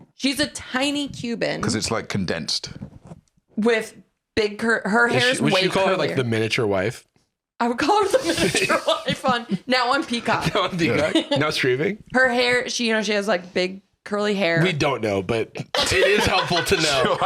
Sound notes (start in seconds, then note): 8.0 laughing